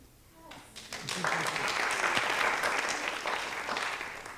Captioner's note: audience applauding